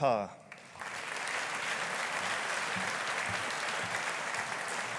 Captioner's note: audience applauding